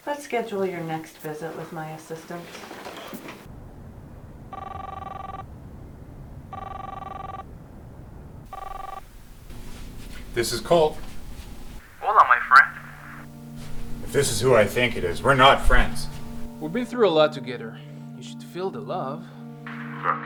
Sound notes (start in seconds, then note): 4.5 cellphone ringing